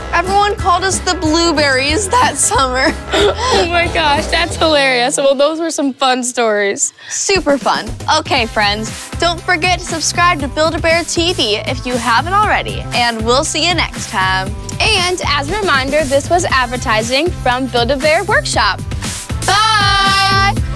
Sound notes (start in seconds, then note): 2.0 laughing